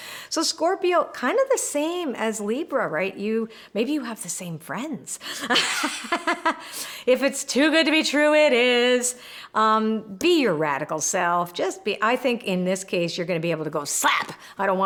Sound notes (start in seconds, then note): 5.3 laughs